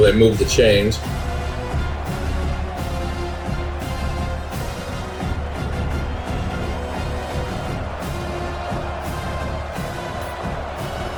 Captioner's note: crowd Noises